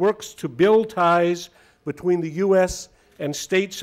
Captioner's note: none